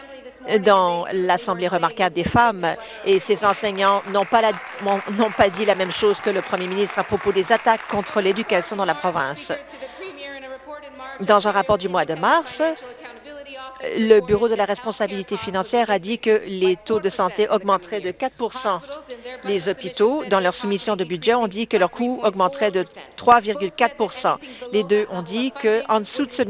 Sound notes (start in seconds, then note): 10.7 applause